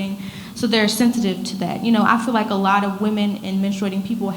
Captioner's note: none